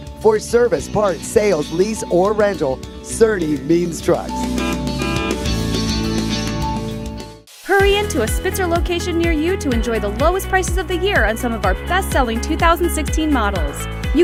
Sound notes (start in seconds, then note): 4.4 horn beeps; 7.5 light rock music